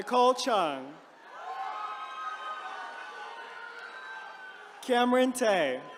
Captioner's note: attendees cheering